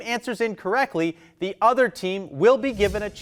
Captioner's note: text whooshing